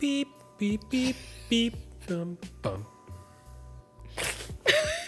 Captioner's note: both laughing; chuckles